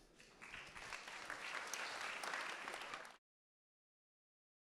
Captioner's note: audience applauding